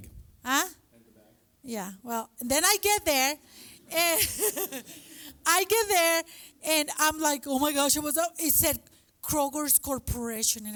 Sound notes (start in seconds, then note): 3.8 laughs